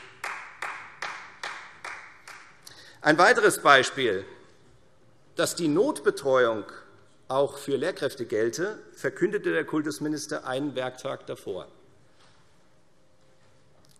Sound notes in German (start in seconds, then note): 0.0 Beifall Freie Demokraten